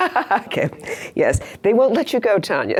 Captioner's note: laughs